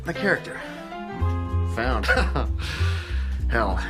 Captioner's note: laughs